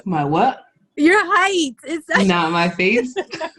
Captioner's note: laughs loudly